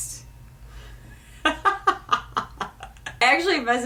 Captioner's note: laughing